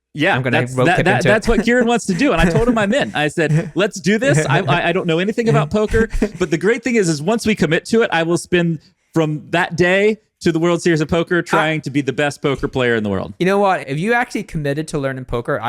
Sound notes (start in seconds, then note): 0.5 chuckles